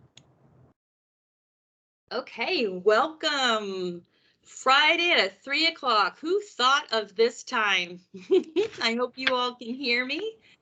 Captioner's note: laughs